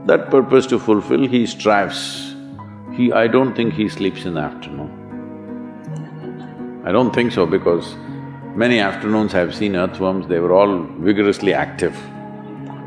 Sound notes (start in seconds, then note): 6.0 laughter